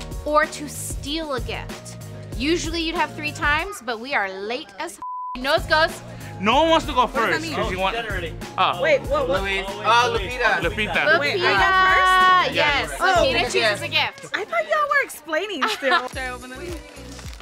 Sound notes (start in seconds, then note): 5.0 beep